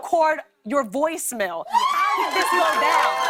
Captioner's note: cheers and applause